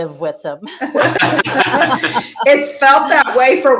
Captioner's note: everyone laughing